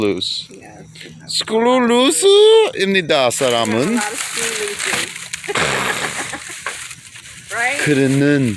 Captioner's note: laughing